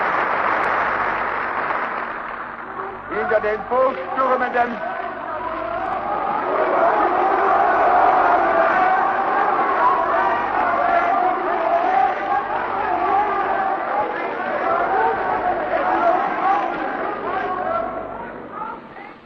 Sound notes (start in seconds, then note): 4.8 booing, Screams: "Out with the Jews"